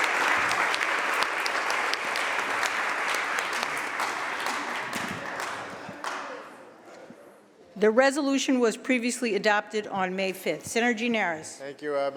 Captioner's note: cheers and applause